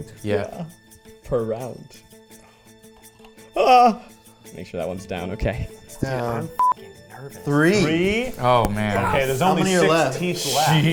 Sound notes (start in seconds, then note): 0.5 ominous instrumental music; 2.9 tooth clicking; 3.6 exclaiming